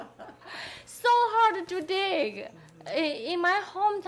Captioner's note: people laughing